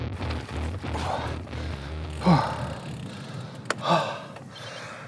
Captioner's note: breathing heavily